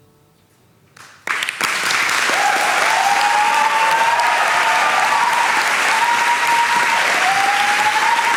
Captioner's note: applauses